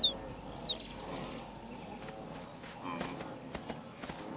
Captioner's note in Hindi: चहचहाहट